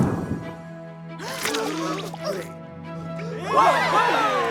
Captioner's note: gasps; cheering